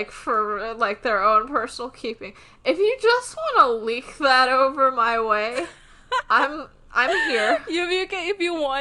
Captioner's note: laughs